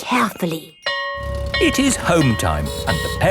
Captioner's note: school bell ringing